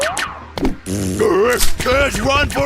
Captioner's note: blows raspberry